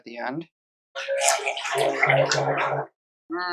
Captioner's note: wet blending noises